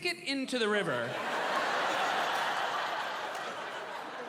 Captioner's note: laughter